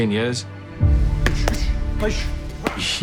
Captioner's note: grunting